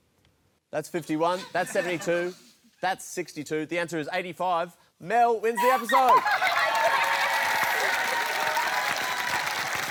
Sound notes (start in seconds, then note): 3.8 cheering, applause